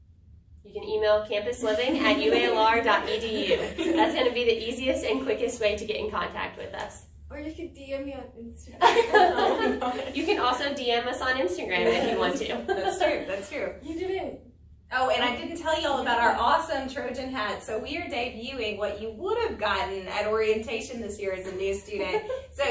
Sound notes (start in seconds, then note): 1.7 all laugh; 8.8 all Laugh